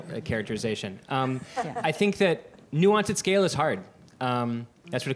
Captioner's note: laughter